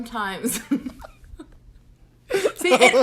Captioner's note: laughs